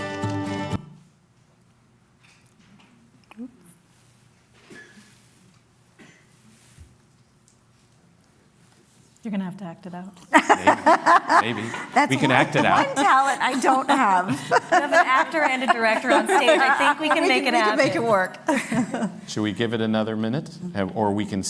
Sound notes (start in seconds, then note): 10.5 laughter